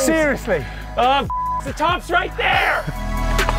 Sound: beep; dramatic music

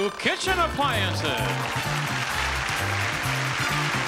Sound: audience applauding

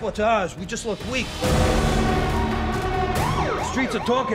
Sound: train horn blares; sirens wail

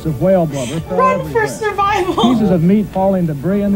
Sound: laughing; laughs

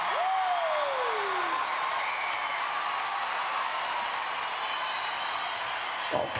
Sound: applause

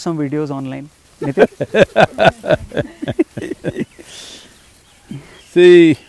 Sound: Sadhguru laughs

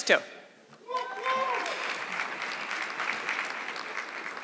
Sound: audience clapping

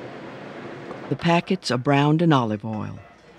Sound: voiceover

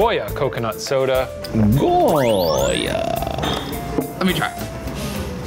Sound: electronic whoosh

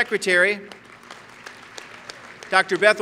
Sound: applause

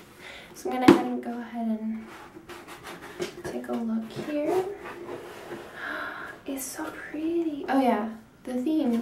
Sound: gasp

